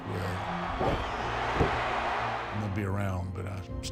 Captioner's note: crowd roaring